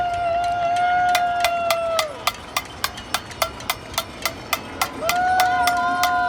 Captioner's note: pan clanging